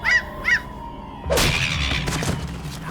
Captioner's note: seagull caws; whoosh, thud, seagull yelps